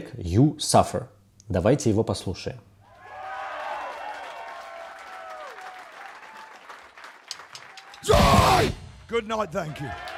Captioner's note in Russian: ликование; аплодисменты; крик